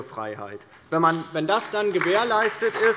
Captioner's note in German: Beifall DIE LINKE und vereinzelt SPD